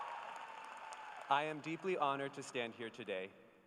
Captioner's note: cheers and applause